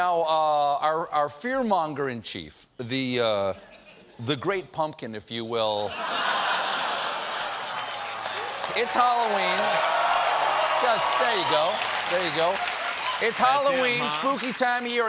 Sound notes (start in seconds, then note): 4.7 applause; 5.8 laughter; 8.2 cheers